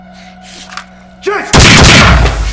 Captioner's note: gun blasting; sinister music